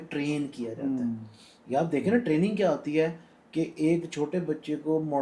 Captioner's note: sound made through the nose